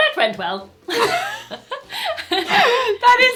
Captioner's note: they laugh